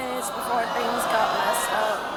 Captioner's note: audience yelling